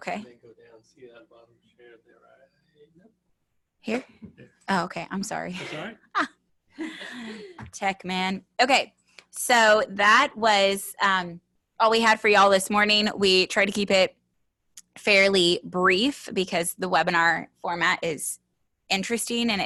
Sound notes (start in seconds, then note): 5.5 laughs